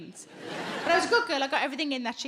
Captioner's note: audience laughs